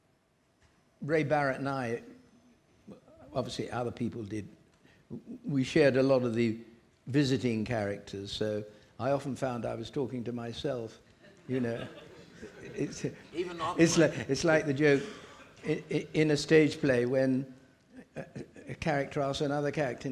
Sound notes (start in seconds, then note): 11.2 audience laughing